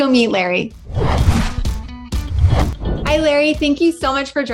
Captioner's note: screen whooshing